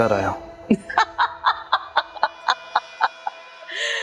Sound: laughs

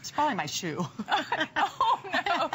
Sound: laughter

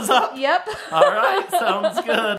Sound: laughing

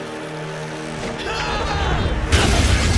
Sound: grunting

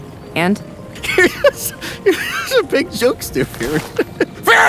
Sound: laughs

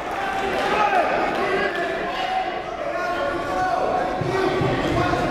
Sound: referees and coaches yelling

